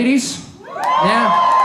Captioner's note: crowd cheering